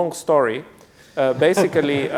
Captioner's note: laughter